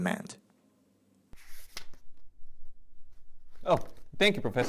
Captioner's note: page flipping